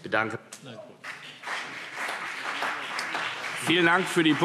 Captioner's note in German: Beifall CDU und BÜNDNIS 90/DIE GRÜNEN